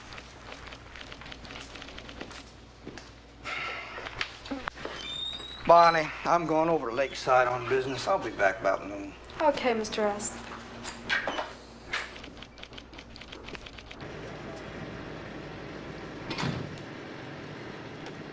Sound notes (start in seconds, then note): 3.5 Tom sighs; 16.2 door opening